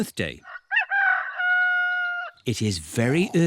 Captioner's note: roster crows